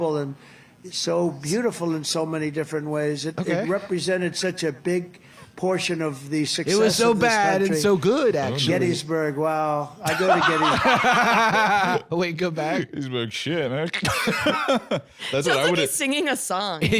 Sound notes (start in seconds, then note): 10.0 both laughing; 14.7 laughs